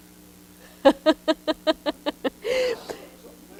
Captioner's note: laughs